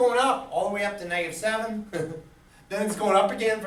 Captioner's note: laughs